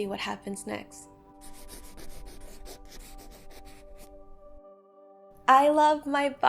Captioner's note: pencil writing noise